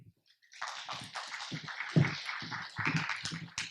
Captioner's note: applause